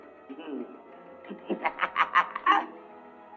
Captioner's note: evil cackling